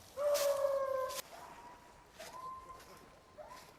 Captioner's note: dogs howling